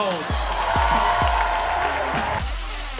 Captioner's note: cheers and applause